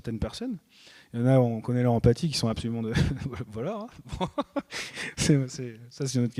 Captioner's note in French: rires